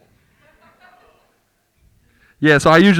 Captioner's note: group laughing